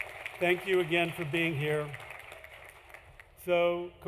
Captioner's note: applause